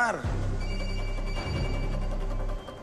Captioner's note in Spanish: Suena el celular